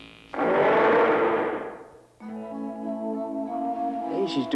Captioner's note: dinosaur roaring